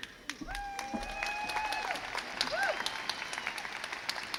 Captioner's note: crowd cheers